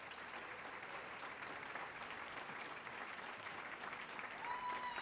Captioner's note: audience applauding